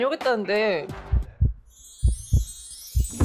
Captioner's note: heart-pounding sound